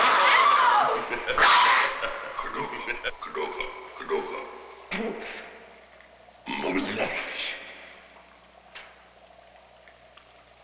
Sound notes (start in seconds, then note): 0.1 yelling; 0.8 laughing; 3.5 speaking in a foreign language; 6.5 grunting